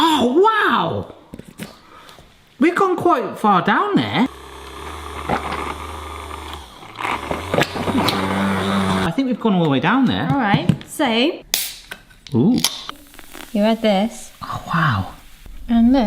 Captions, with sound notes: Oh wow. We've gone quite far down there. (buzzing noise) - I think we've gone all the way down there. - All right. So, - Ooh, - You add this. - Oh, wow.